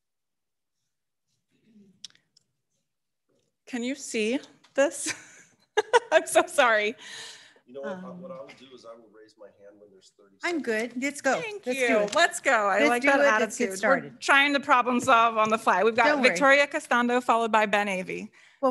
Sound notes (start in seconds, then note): 4.9 laughs